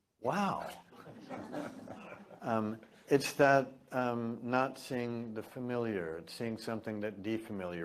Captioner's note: laugh